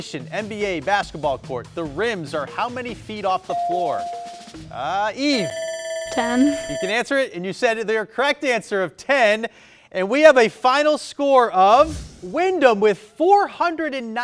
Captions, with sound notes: On a regulation NBA basketball court, the rims are how many feet off the floor? (buzzer dinging) Eve. (timer ringing) - 10. - You can answer it and you said it there. Correct answer of 10. And we have a final score of Windham with 490 points.